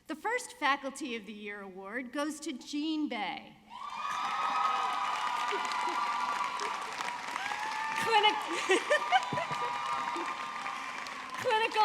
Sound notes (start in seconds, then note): 3.7 audience cheering; 8.0 laughing